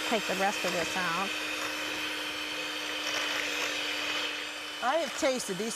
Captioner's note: beater grinding